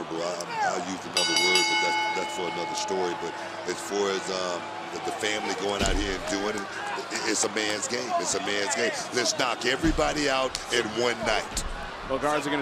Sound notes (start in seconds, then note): 1.1 bell ringing